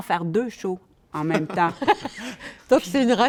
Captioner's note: laughter